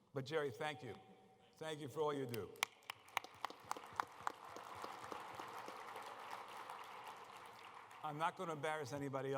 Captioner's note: applause